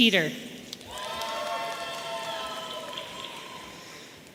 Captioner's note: audience cheering